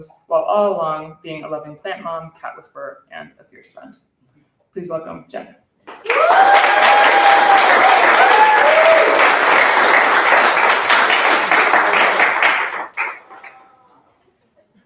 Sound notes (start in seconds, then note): 6.0 cheering; 6.2 applause